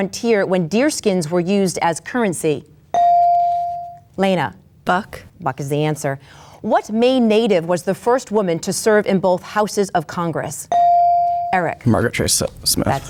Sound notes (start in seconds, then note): 2.9 bell dings; 10.7 bell dings